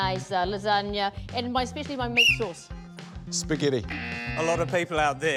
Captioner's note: buzz!